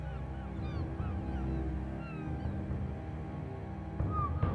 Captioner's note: gulls shrieking